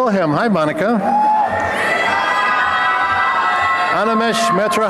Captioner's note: applause and cheering